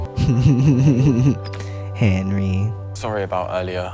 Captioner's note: laugh